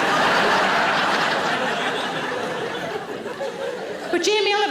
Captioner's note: audience laughing